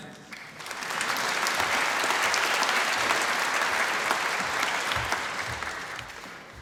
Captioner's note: applause